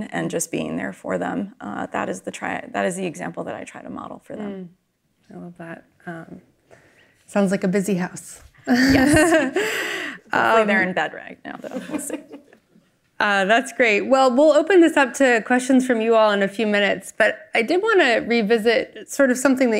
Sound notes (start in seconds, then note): 8.7 chuckles